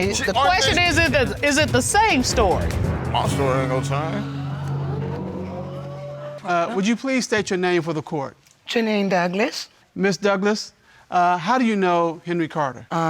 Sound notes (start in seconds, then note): 4.0 audience exclaiming